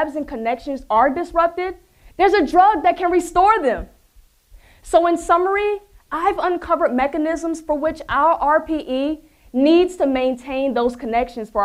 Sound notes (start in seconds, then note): none